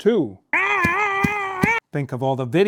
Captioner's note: screaming; hand thumping